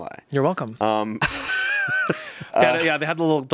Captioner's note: laughs